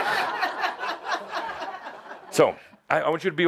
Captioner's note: laughter